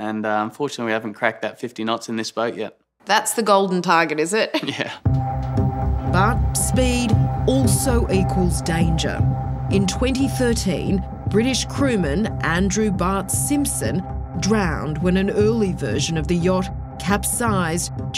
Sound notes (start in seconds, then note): 4.5 chuckles